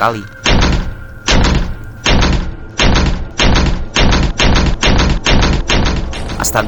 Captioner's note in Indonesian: suara benturan pintu